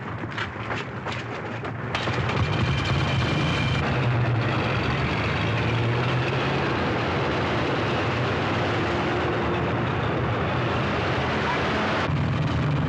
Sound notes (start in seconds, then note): 1.8 engines revving